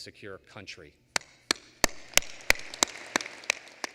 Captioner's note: applause